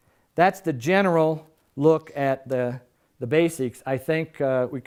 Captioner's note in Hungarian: none